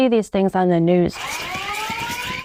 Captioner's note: alarm ringing